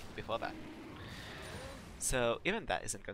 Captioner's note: intense breathing